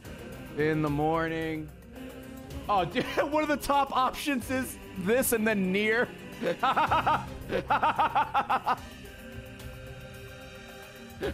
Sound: laughs

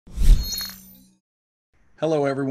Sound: air whooshing

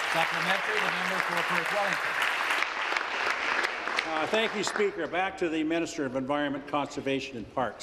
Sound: applause

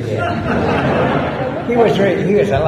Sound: laughter

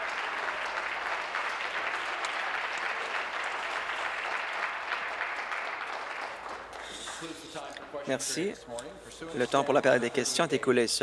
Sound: applause

